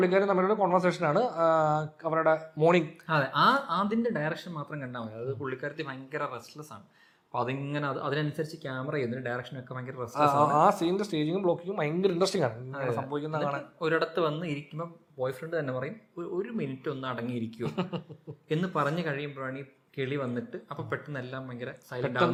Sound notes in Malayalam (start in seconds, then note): 17.6 പൊട്ടിച്ചിരി